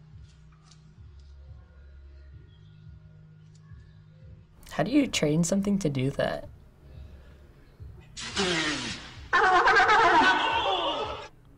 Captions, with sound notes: - How do you train something to do that? - (sea lion blowing air) (sea lion laughing)